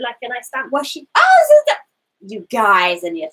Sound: exclaims

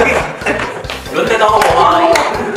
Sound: laughing myself

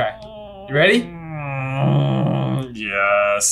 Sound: groaning

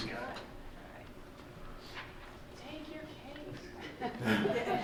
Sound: laughing

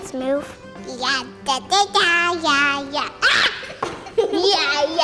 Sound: speaks in singsong; children laughing

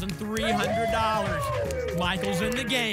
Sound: applause and cheering

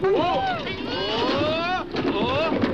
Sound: rocks rumbling; One Eye yelps

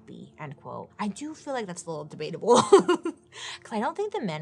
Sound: laughs

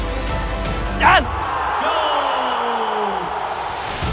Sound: audience cheers

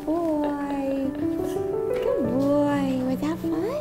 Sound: laughing

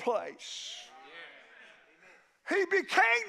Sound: congregation shouts agreement

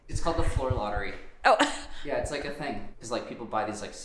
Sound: chuckles

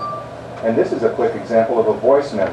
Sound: speaks into iPod

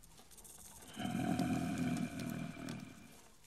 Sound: groan

